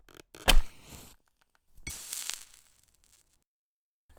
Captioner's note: match strike sound; match sizzles as it hits the plate and goes out